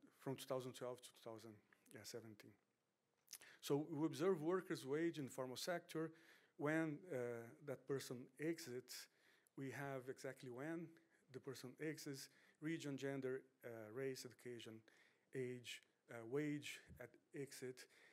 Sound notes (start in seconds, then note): none